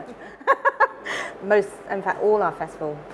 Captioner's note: laughing